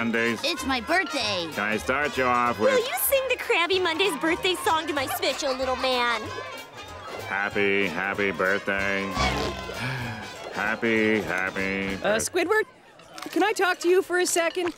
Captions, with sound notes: It's my birthday. Can I start you off with-- Will you sing the Krabby Monday's birthday song to my special little man? Happy, happy birthday. [sighing] Happy, happy-- Uh, Squidward. Can I talk to you for a second?